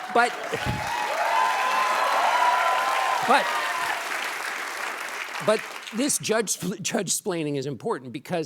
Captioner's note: applause